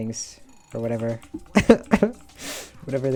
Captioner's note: laughs